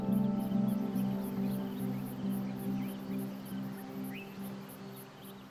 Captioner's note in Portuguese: sons de pássaros e grilos